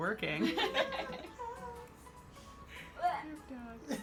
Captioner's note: laughs